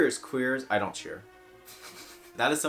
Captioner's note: laughs through nose